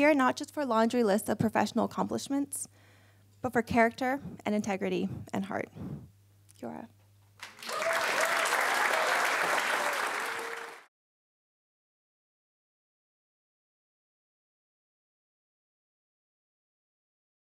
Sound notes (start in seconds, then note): 7.4 applause